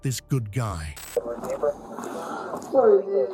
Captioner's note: radio chatter